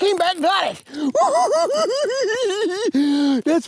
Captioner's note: giggling